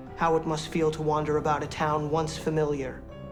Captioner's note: none